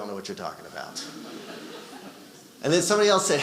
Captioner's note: audience laughing